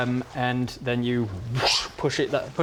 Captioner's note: whoosh